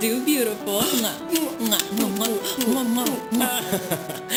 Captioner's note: lips smacking; laughing